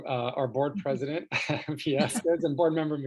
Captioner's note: laughs